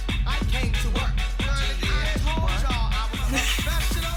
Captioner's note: laughs